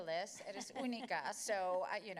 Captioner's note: Spanish language